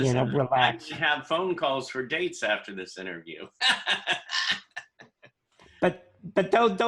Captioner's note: laughter